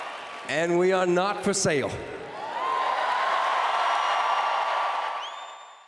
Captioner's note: cheers and Applause